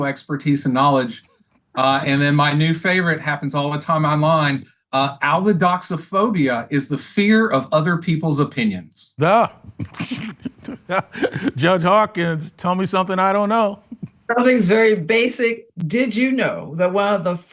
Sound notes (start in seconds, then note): 9.2 laughs